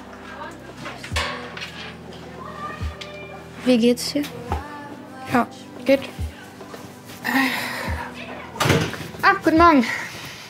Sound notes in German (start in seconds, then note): 7.2 Seufzen